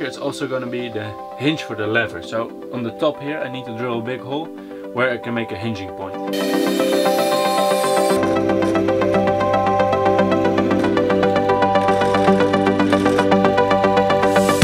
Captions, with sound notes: is also gonna be the hinge for the lever so on the top here I need to draw a big hole where I can make a hinging point. (blade whirring) (gentle instrumental music)